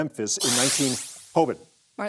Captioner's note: buzzer sounds